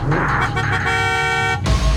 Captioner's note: horn